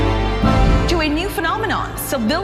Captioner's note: voiceover